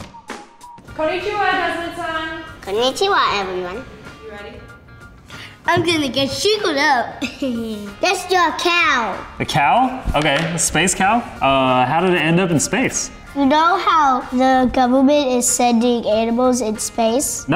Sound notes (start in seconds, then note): 7.2 laughs